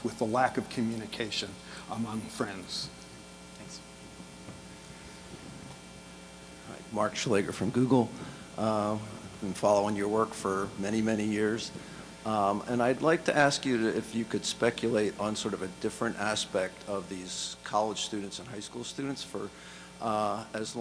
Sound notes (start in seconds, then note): 7.2 voiceover